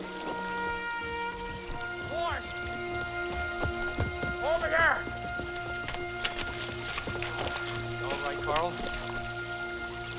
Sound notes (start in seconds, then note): 2.0 hunter yells; 6.0 water splashing